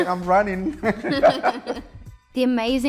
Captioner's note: laughter